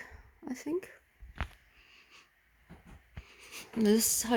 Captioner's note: sniffs air